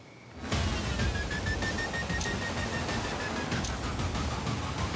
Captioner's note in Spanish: ruido del obturador